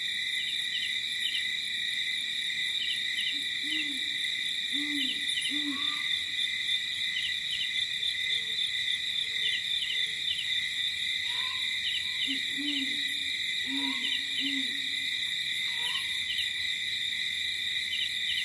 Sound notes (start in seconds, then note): 5.4 owl hooting